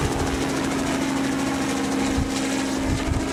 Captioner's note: helicopter